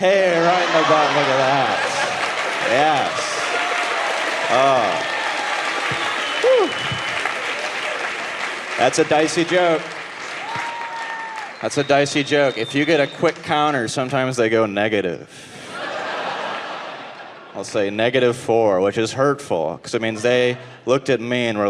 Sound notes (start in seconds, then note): 3.4 audience clapping; 7.2 audience clapping; 15.5 audience laughing